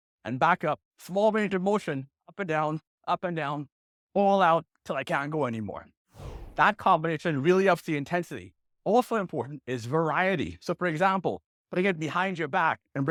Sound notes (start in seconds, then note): 6.1 air whooshes